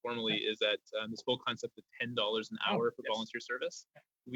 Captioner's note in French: voix de l'interprète